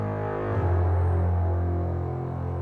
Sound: drone sfx

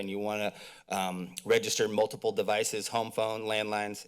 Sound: mouth clicks

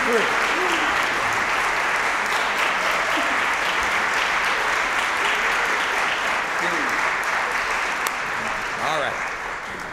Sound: applause

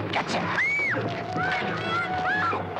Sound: Molly shrieks

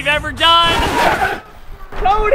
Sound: record scratch

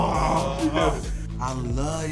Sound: groans

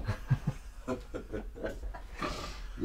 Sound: laughing

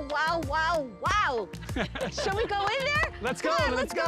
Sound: laughter

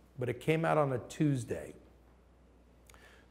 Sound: none

